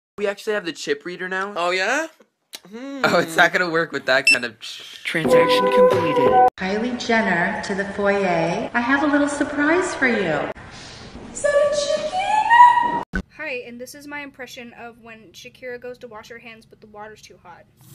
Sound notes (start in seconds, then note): 5.2 beep; 6.0 self check-out voice